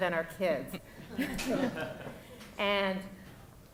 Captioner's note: audience laughing